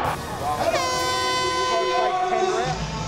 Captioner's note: horn blowing